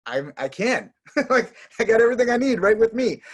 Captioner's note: laughing